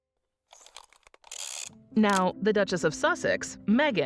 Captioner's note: shutter clicks